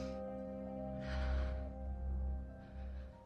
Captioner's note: exhales